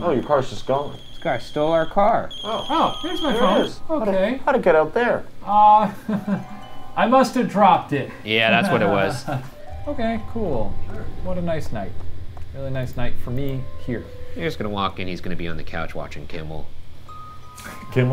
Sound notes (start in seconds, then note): 5.8 chuckles